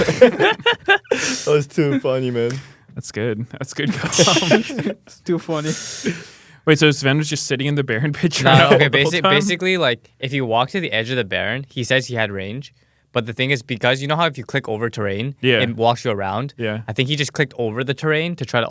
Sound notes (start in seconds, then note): 0.2 laughs; 8.4 laughs